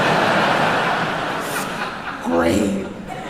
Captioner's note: crowd laughing